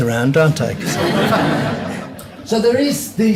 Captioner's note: audience laughs